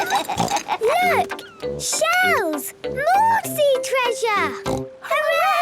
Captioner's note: laughs; snort